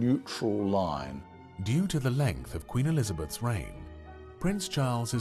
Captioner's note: voiceover